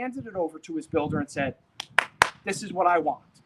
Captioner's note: clapping